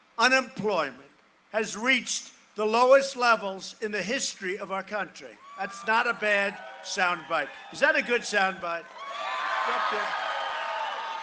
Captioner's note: cheering and applause